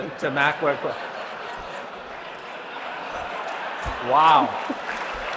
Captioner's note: laughter; applause